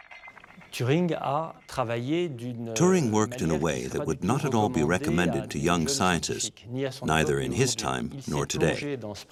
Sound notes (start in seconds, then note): 0.9 speaking in foreign language